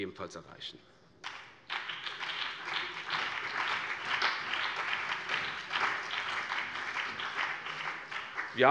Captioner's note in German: Beifall BÜNDNIS 90/DIE GRÜNEN, CDU, SPD und DIE LINKE